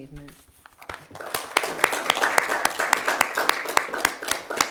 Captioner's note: all applaud